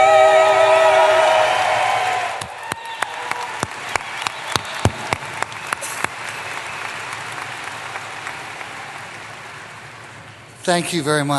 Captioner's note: applause